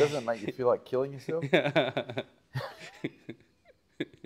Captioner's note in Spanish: risas